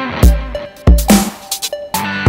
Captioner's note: Mouthing